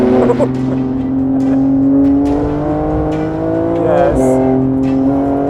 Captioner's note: laughing; car engine roaring